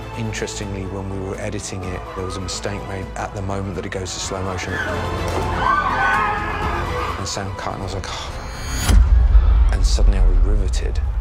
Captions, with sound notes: Interestingly, when we were editing it, there was a mistake made at the moment that it goes to slow motion. (SCREAMING) Our sound cut, and I was like... (GROANS) ...and suddenly, I was riveted.